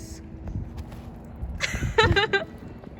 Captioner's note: laughing